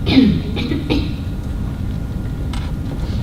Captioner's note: coughing